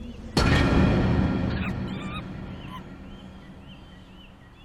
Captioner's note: monkey screaming